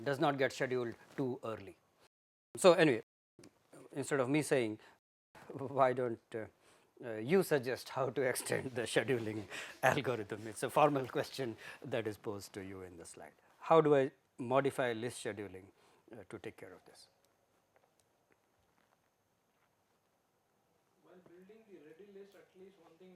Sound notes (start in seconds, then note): 8.4 laughter